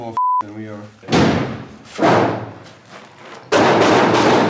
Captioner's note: guns firing